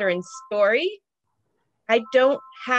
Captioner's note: cellphone ringing